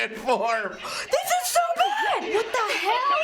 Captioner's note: breaks into laughter; gasp